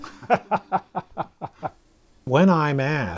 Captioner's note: laughing